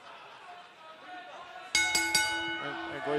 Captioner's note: bell ringing